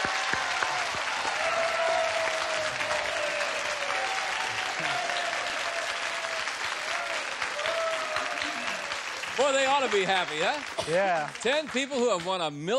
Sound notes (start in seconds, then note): 1.9 applause, cheering